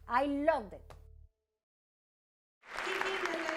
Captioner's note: applause